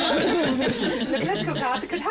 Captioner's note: laughter